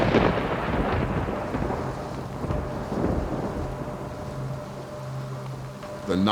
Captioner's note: thunder rumbling; rain falling